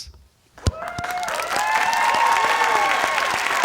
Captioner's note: applause and cheering